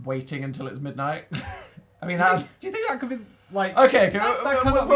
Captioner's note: laugh